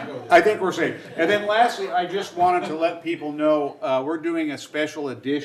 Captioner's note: laughter